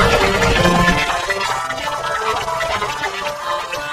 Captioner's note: gloinks boinging, squeaking